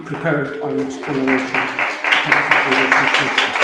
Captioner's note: applause